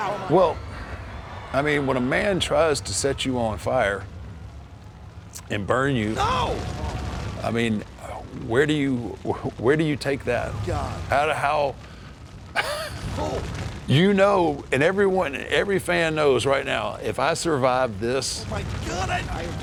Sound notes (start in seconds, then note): 12.5 laugh